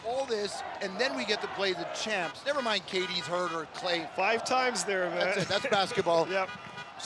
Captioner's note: laughter